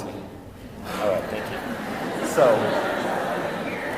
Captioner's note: audience laughter